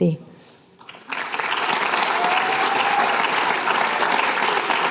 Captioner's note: applause